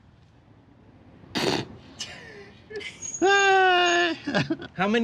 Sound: laughing

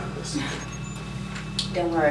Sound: whimpers

